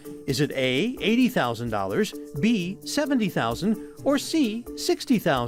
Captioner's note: none